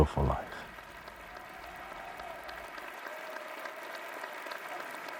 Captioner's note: audience cheering